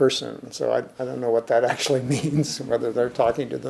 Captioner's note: chuckling